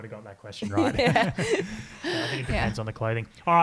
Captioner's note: all giggling